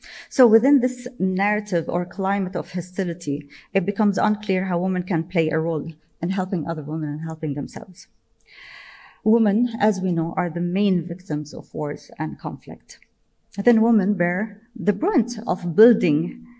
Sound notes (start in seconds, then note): none